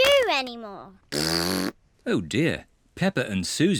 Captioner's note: snorts; blows raspberry